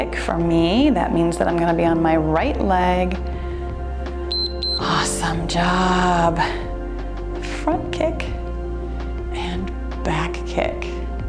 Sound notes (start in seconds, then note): 4.3 timer beeps